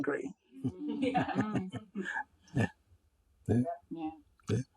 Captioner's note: group laughing